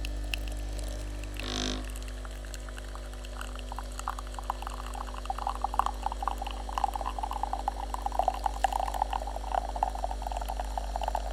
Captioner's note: sound of espresso maker